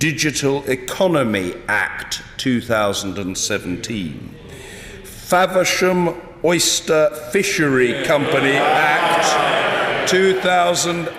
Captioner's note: cheers